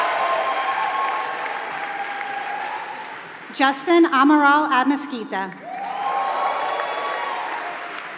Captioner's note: applause